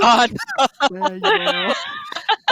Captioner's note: laughing